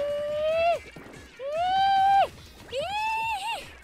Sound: whoops once; whoops a third time; whoops twice

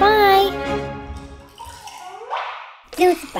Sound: liquid splashing

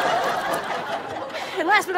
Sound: audience laughs; gagging; drinking

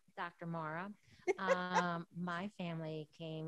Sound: chuckles

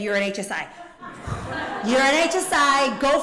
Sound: laughter

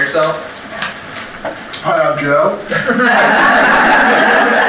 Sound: audience laughter

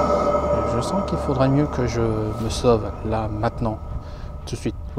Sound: devil's growl

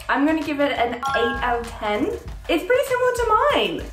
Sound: bell chiming

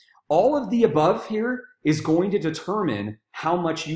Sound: none

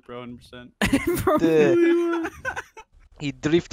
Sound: laughs

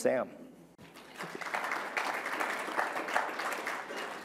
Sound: applause

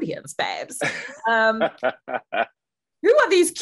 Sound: laughing

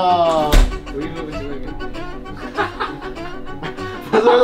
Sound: hahahahahaha

